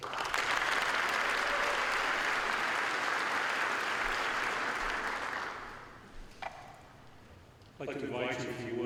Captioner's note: applause